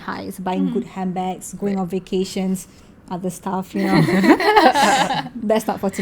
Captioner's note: laugh